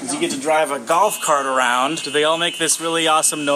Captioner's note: golf cart backing noise